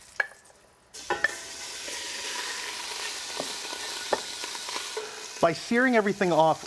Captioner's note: sizzling